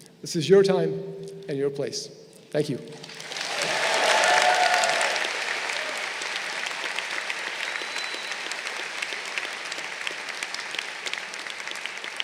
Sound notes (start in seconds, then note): 3.3 crowd cheering